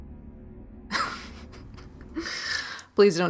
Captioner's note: laughing